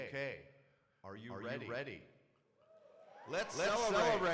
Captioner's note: crowd cheering